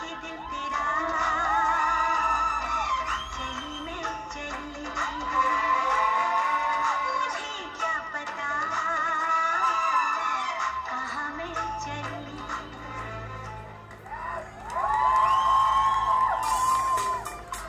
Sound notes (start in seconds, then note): 5.3 applause